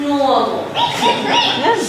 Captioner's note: rat squeaks